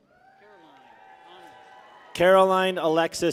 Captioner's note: people cheer